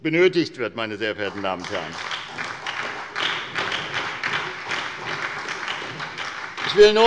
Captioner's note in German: Beifall bei der SPD